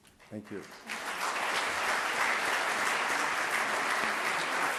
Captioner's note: audience clapping